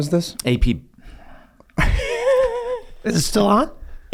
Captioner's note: Rob laughs